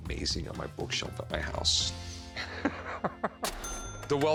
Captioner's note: chuckles